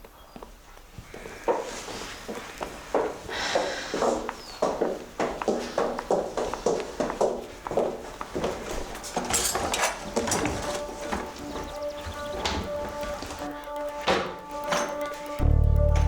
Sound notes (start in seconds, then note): 1.4 footsteps; 10.0 suspenseful music